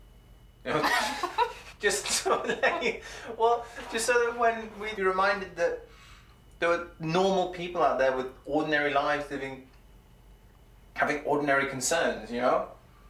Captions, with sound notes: -You know. -[Stef laughs] Just so that they, well, just so that when we'd be reminded that there were normal people out there with ordinary lives living... having ordinary concerns, you know?